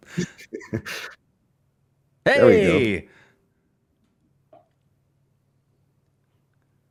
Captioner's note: laughter